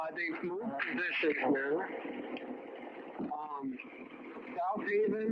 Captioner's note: voice distorts